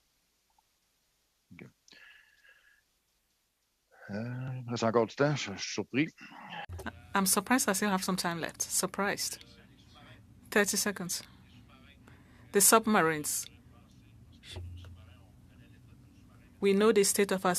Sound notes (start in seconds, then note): 13.9 speaking French